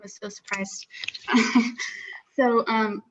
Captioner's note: chuckles